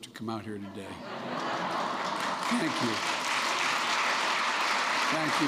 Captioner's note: laughter; applause